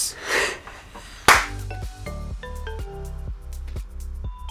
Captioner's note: loud clap